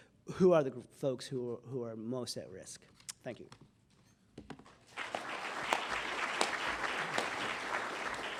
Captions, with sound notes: going to look at who are the folks who are most at risk. Thank you. [APPLAUSE]